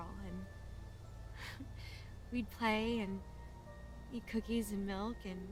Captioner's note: chuckles